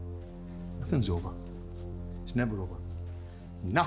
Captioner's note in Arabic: لهجة اسكتلندية